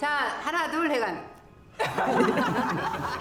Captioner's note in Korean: 일동 웃음